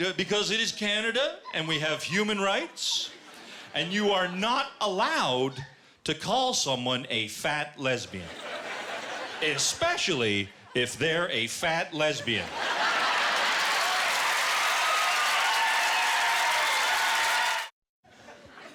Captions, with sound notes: because it is Canada and we have human rights and you are not allowed to call someone a fat lesbian. Especially if they're a fat lesbian. (Laughter) (Applause)